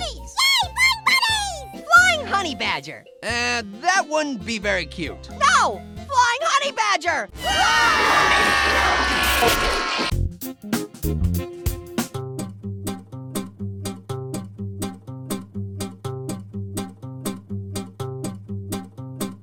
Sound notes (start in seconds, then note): 7.3 all screaming; 7.3 horror music; 9.0 static